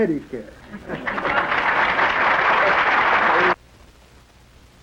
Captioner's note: applause